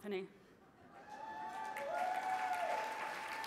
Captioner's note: cheering